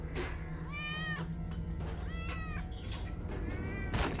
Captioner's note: cat screeching